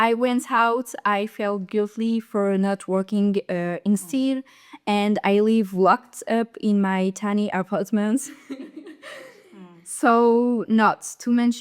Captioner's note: laughter